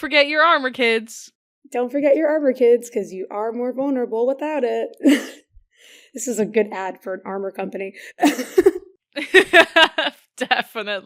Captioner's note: laughing